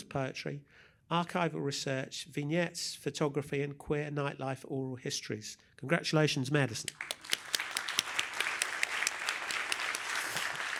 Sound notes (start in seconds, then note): 6.8 applause